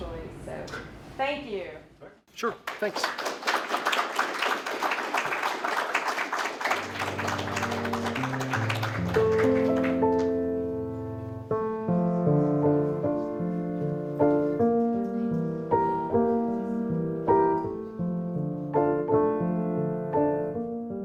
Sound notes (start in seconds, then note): 2.4 applause; 8.2 closing music